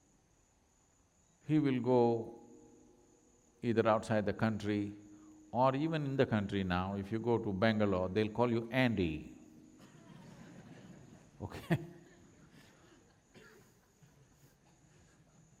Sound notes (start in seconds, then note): 9.8 laughs; 9.8 laughter